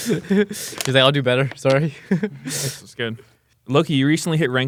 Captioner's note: laughs